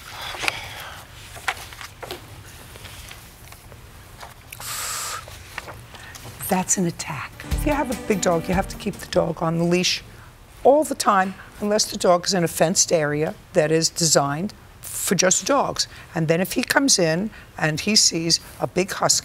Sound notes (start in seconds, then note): 0.1 sighing; 4.6 inhales sharply